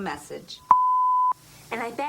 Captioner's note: machine beeps